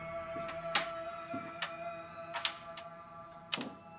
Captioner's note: lock clicking